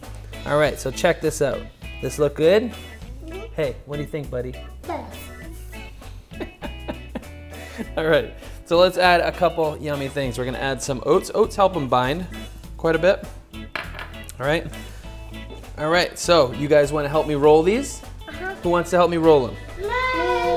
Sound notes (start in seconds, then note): 6.2 dad laughs